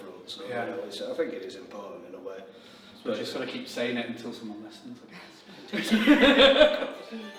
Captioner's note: laughs